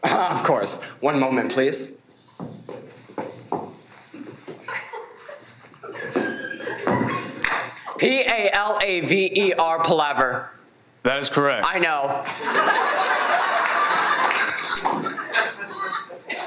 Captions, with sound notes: - Of course, one moment please. P-A-L-A-V-E-R, palaver. - That is correct. - I know. (everyone laughs)